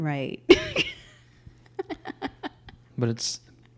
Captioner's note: laughs